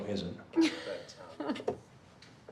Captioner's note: chuckles